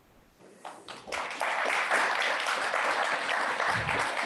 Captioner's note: applause